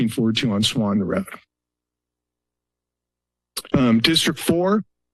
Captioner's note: pause